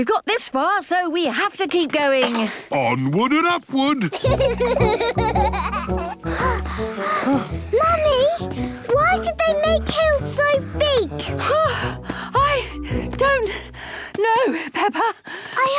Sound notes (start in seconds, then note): 4.1 children giggling; 6.2 panting; 13.6 panting